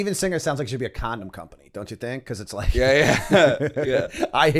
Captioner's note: laughter